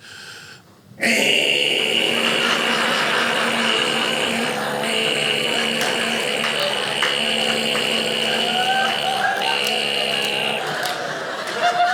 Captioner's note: alarm clock noise